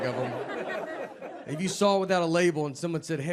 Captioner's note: audience laughing